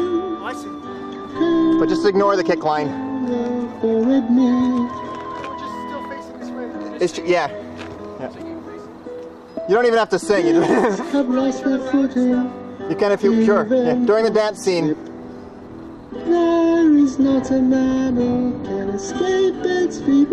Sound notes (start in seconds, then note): 10.5 laughter